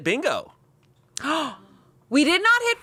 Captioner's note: gasps